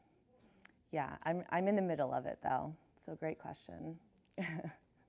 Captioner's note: chuckles